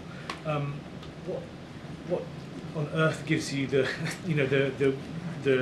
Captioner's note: laughs